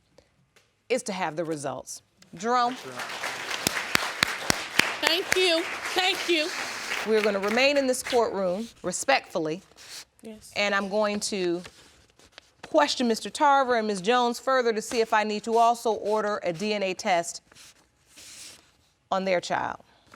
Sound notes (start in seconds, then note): 2.4 audience applauding